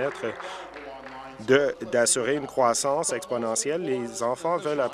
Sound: applause

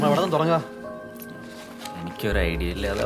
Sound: phone ringing

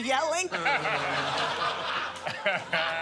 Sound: laughter

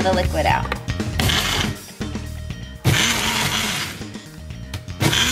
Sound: blender whirs

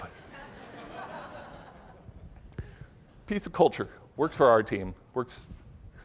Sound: laughter

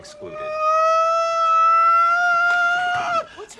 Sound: ABED shrieking gradually louder; ABED starts to shriek

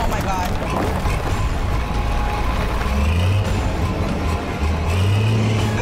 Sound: bulldozer rumbling; dirt thudding; ominous music

